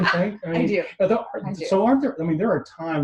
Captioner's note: laughs